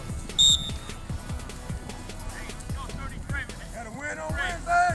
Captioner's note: whistle blows